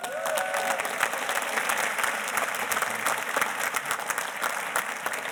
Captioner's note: audience cheers and applauds